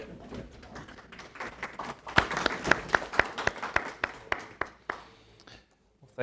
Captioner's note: applause